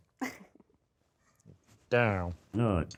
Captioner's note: laughs